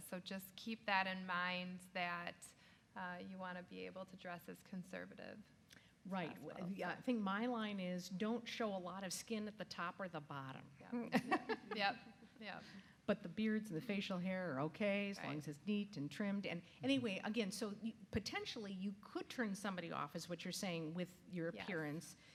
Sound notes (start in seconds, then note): 11.1 laughs